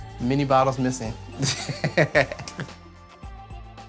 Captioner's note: laughing